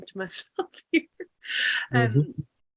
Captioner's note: laughs